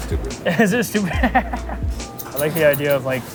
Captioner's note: laughs